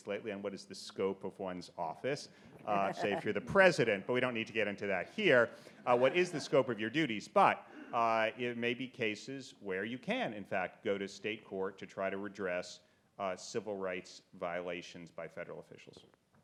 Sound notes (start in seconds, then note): 2.6 audience laughs